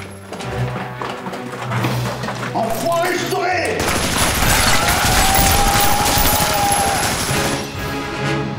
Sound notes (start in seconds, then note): 4.6 war cries